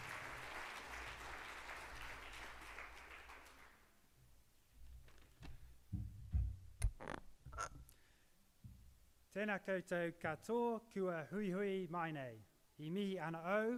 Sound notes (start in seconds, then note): 9.5 speaks in Maori